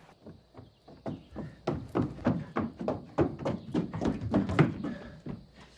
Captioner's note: rapid footsteps